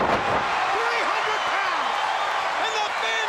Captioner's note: crowd cheers